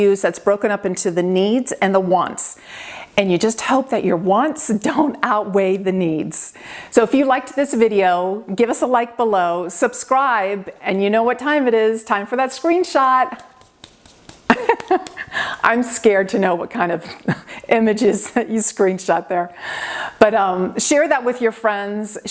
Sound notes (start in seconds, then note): 13.2 hands brushing; 14.5 laughing